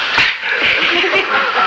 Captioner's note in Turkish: Gülüşmeler